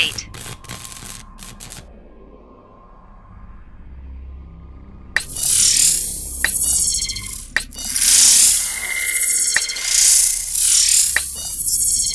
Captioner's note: alien UI feedback sound